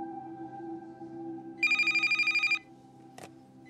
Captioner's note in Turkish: Telefon çalıyor